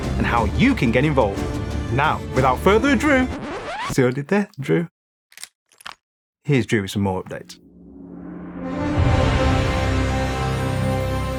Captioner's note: gun loading